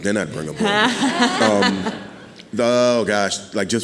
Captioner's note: audience laughing